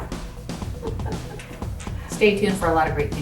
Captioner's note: upbeat music; laughing